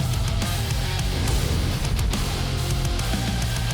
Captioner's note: sfx: Burst of flames